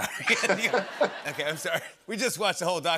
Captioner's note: laughter